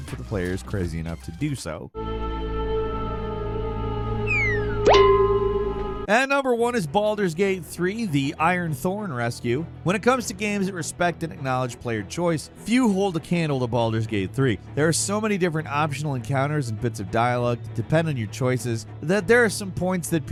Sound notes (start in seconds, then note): 2.2 tense music; 4.2 whistling